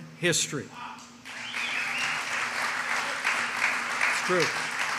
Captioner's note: applause